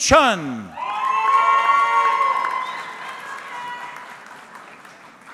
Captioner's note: audience cheering